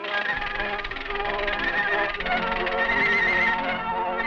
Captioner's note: cheerful music continues; tail clicking